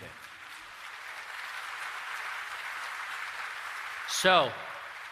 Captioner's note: applause